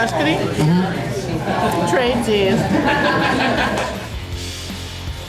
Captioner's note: crowd laughter